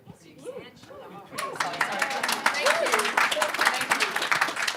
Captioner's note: applause